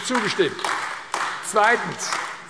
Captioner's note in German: Beifall AfD